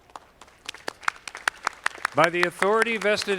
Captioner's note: audience clapping